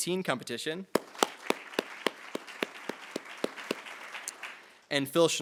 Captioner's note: attendees applauding